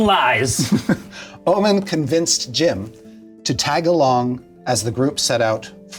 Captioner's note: laughs